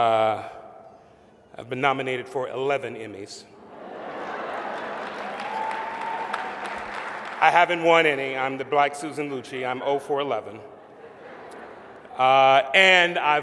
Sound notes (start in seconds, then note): 4.3 applause; 10.7 laughter